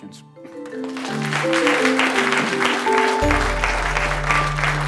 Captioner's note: applause